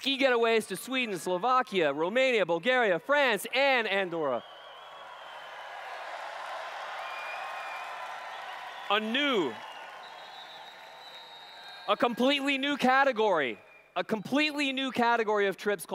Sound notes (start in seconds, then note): 3.0 cheers/Applause